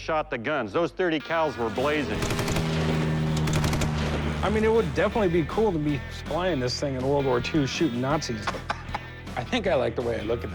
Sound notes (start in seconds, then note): 2.1 gunfire; 8.3 laughs